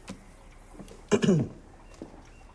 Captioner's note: clears throat